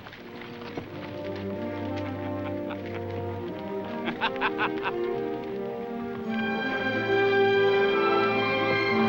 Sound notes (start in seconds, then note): 0.1 somber music; 2.1 laughs